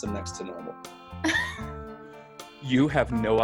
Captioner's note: laughs